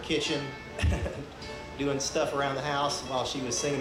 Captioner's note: chuckles